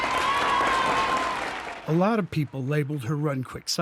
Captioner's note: applause